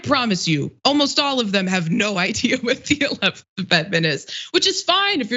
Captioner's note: laugh